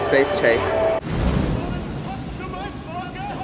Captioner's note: spaget sounds